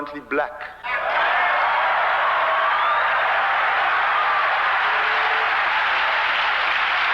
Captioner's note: applause